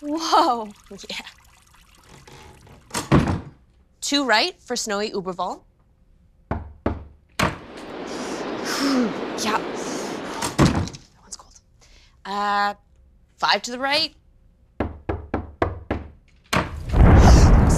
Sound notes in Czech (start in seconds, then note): 6.2 Dvě zaklepání; 7.6 Ledové a mrazivé fučení